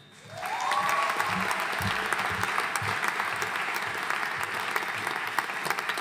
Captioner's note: audience cheering and applauding